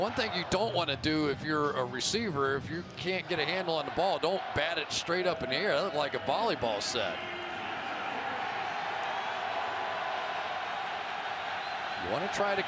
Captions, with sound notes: Yeah, the one thing you don't want to do if you're a receiver, if you can't get a handle on the ball, don't bat it straight up in the air. It looked like a volleyball set. [pa announcement] [cheering]